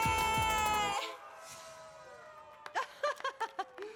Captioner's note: applause